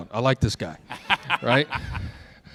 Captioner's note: laughter